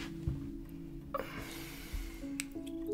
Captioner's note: sighs